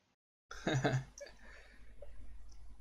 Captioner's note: laughs